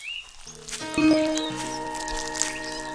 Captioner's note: footsteps approaching